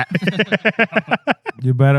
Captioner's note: laughing